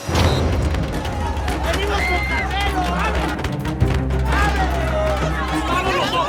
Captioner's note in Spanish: Golpes; Gritos y exclamaciones